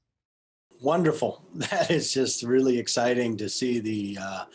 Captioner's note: laughter